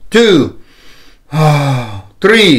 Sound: inhale and exhales

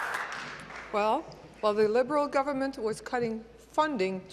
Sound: applause

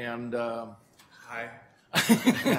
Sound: laughter

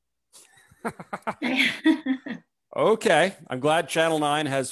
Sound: chuckles; laughs

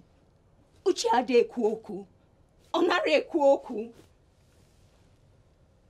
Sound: speaking in foreign language

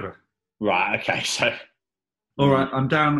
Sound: laughs

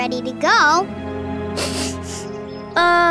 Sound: sniffing

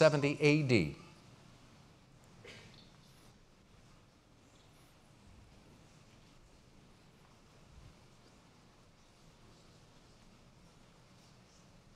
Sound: pause

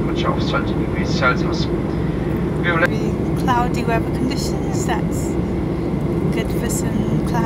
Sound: airport tannoy

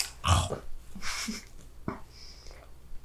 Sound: laughter

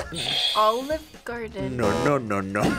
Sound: buzzer; laughs; buzzer; buzzer rings

